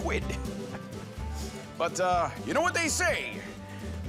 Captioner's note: chuckles